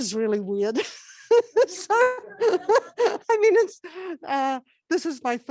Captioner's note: laughs